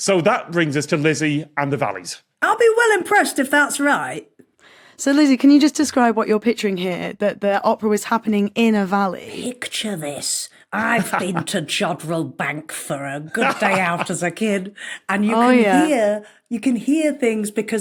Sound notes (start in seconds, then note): 13.3 laughs